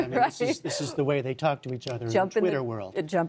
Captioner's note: laughter